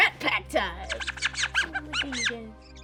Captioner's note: squeaking